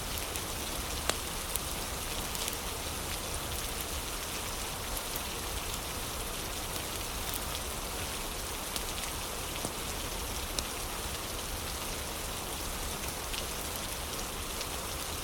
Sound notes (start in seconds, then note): 0.0 fire crackling